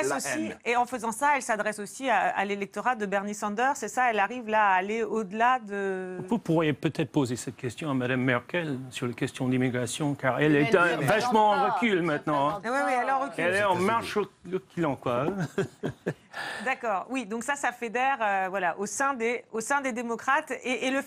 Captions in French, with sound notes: -En faisant ça, elle s'adresse aussi à l'électorat de Bernie Sanders. Elle arrive à aller au-delà de... ? -Vous pourriez poser cette question à Mme Merkel, la question de l'immigration. Elle est très en recul maintenant. Elle est en marche... reculons, quoi. (il rit) -Oui, donc ça, ça fédère au sein des démocrates.